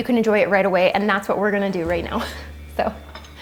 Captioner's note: chuckles